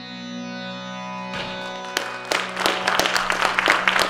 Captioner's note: applause